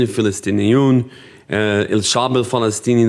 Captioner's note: speaking in foreign language